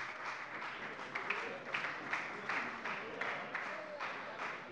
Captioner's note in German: Lebhafter Beifall bei der FDP